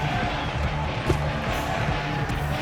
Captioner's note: gentle rock music; skier thuds; gentle rock music